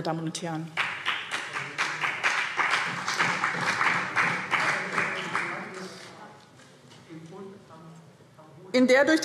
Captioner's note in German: Beifall BÜNDNIS 90/DIE GRÜNEN und vereinzelt CDU